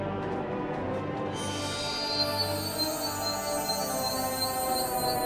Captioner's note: stone chiming